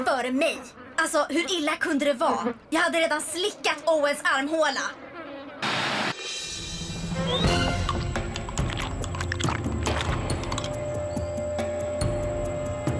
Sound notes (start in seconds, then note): none